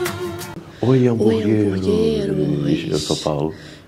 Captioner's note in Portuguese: juntos sussurrando